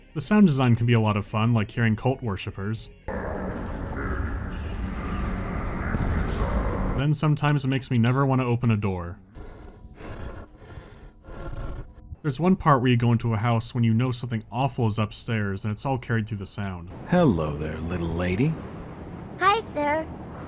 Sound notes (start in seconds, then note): 9.2 heavy bestial breathing right behind the door